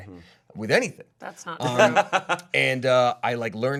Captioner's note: laughing